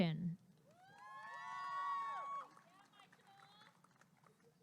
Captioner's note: applause and cheering